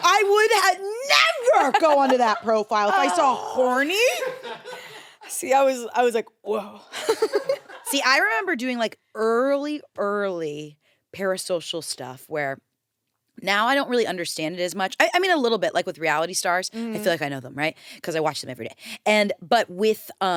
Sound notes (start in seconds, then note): 0.0 crew laugh; 7.2 laughs